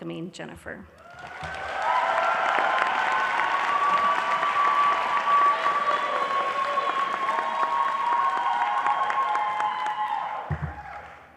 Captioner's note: applause